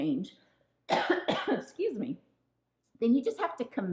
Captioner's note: woman coughing